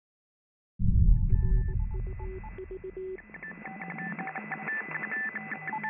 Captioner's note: spacecraft beeps and whirs